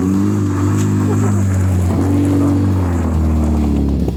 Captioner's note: laughing